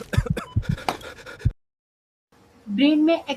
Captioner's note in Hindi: हंसी